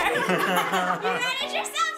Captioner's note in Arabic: كل يضحك